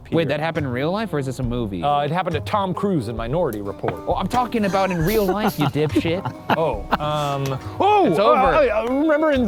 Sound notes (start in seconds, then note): 6.3 laughing